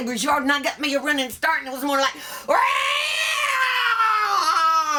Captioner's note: cat screamings